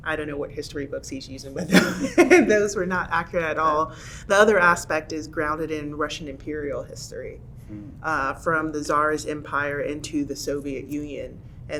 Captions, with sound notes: I don't know what history books he's using, (laughing) but those were not accurate at all. The other aspect is grounded in Russian Imperial history from the czar's empire into the Soviet Union